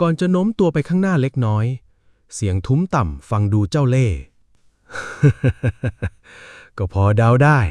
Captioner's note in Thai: เสียงหัวเราะ